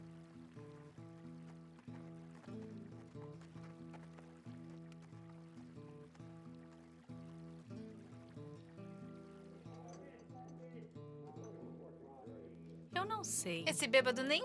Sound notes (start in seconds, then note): 10.1 people chattering